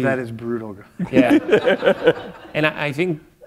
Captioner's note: chuckle